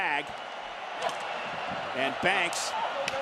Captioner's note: crowd cheers; hands slap